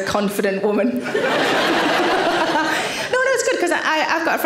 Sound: audience laughing

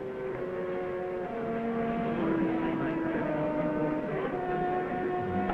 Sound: crowd murmuring; orchestral music

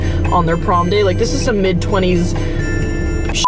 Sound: beep

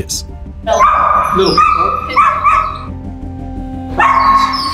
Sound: Astro barking; suspenseful music

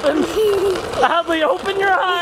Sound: laughs

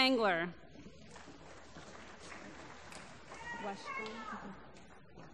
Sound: applause

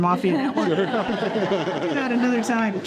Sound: group laughing

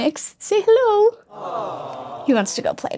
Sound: crowd

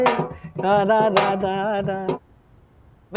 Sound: humming

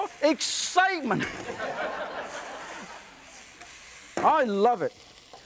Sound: audience laughs

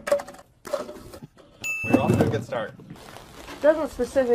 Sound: ding!

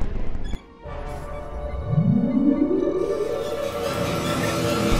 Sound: computer warning / power up; suspenseful music

